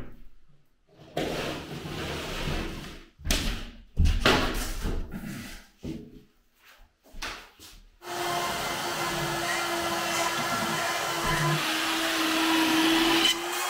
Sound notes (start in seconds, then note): 4.1 board thumping; 8.0 saw buzzing